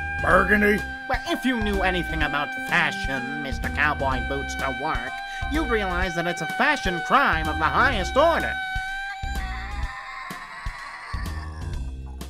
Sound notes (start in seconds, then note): 0.4 Horrified pepper screamings; 2.2 Horrified pepper screamings; 4.3 Horrified pepper screamings; 7.5 Horrified pepper screamings